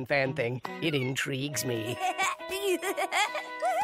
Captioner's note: giggles